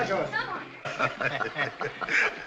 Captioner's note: all chuckles